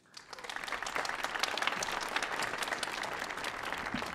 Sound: audience applauding

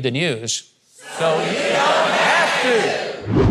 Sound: crowd

